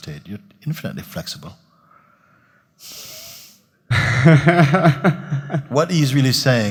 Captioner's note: questioner in laughter